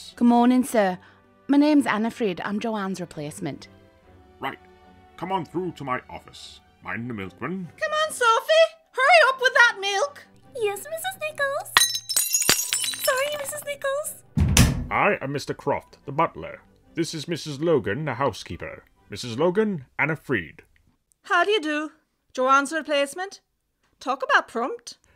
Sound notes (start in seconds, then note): 11.7 smashing milk bottles; 14.3 office door closing